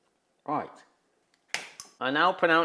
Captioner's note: plastic pops